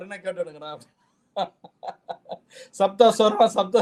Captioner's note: laughs